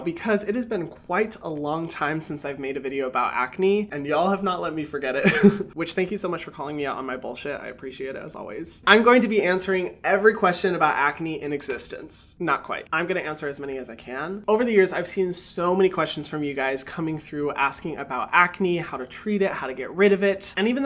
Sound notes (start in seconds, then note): 5.2 chuckles